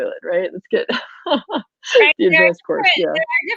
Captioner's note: laughs